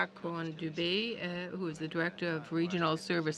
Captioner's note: speaking french